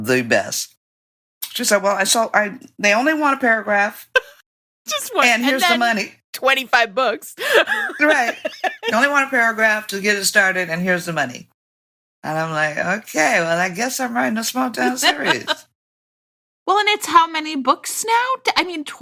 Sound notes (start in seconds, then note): 7.4 laughing